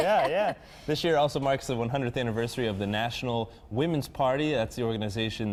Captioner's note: laughter